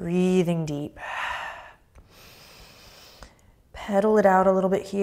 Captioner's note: deep breath